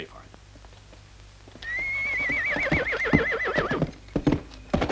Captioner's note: horse neighing